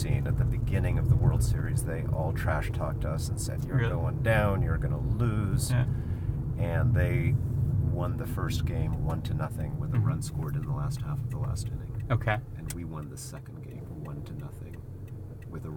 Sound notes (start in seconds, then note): none